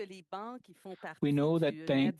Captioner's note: speaking French